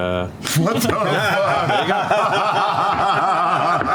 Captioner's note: laughter